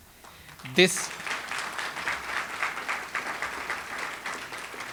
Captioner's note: audience applauds